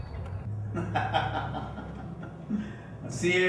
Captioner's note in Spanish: risa